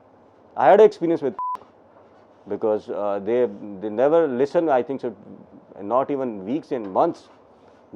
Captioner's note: beep